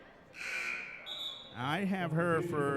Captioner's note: referee whistling; buzzer sounding